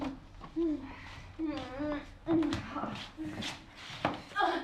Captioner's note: footsteps, door opening; Sarah grunting, in pain; Sarah exclaims in pain